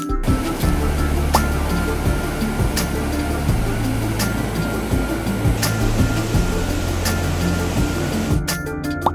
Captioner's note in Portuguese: água corrente